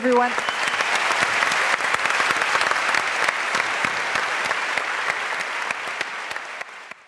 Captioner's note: applause